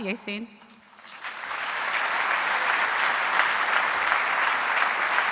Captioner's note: audience applauding